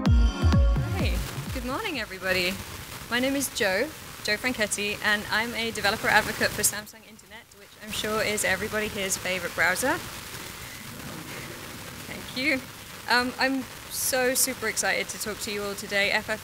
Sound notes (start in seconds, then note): 10.9 audience laughs